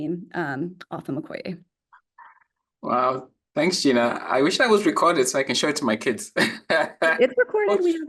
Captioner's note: laughs